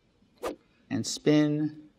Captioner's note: air whooshes